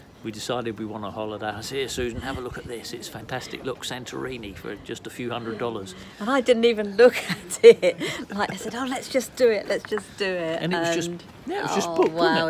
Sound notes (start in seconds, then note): 7.1 laughs